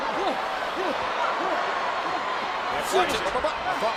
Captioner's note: crowd murmuring